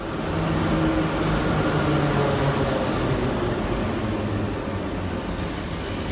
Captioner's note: arrival of train at the station